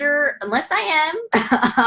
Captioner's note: laughs